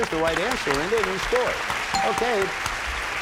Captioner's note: bell rings